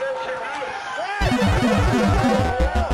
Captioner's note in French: Bruit d'échec dans un jeu vidéo; Foule